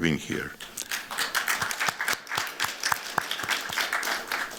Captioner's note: applause